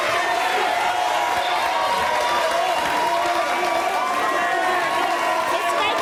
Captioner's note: audience applauds; audience cheering